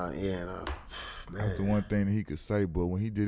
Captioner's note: exhales